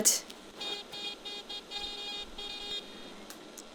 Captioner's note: continuous car honks